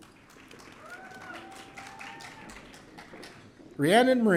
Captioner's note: audience cheering